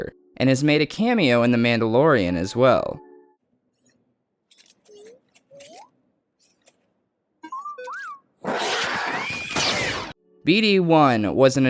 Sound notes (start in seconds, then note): 3.4 BD-1 beeps; 8.4 creature snarls; 8.5 blaster shot